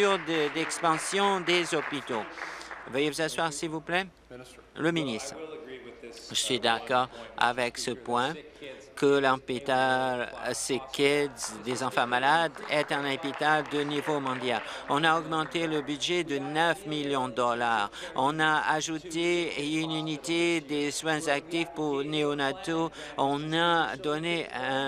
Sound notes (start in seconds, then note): 0.0 applause; 16.1 applause